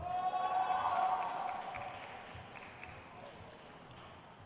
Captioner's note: crowd cheers